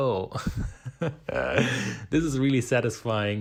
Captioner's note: laughing